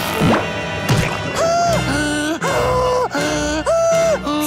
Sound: heavy panting

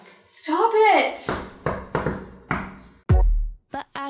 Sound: knock knock knock

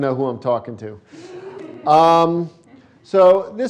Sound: laughter

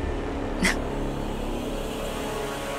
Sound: scoffs

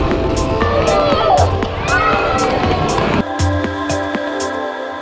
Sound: cheers/screams

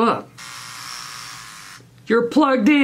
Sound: razor buzzing

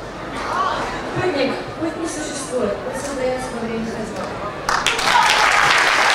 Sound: speaking in foreign language; clapping

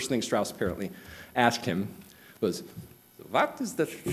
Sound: high pitched german accent

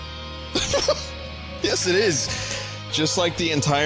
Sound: laughs

